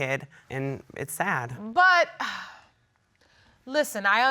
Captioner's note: sighs